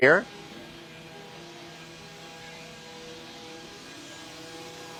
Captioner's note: saw whirring